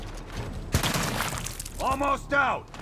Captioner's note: gunshot